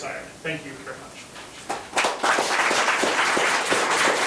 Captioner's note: members applauding